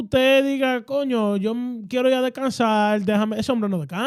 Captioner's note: speaking In Foreign Language